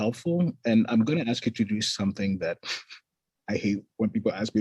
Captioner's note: chuckles